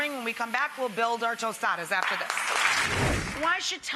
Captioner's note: applause